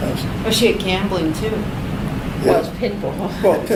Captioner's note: laughs